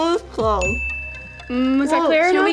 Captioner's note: bell dings